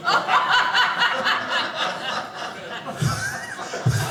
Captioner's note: audience laughing